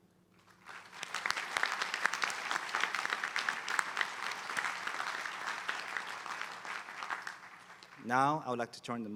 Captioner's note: applause